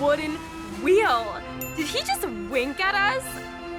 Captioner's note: ding!